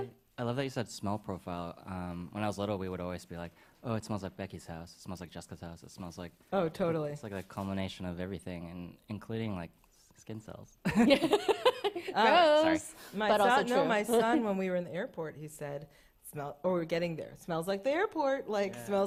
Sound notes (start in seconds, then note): 10.9 chuckles; 12.7 laughs